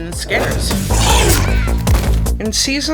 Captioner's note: creature hisses; child yells; body thuds